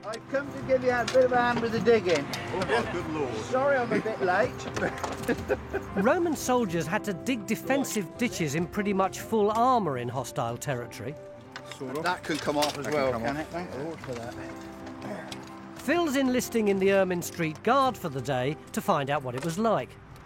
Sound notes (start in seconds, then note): 4.6 laughs